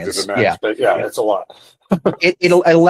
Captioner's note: laughs